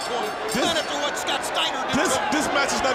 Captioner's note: bell ringing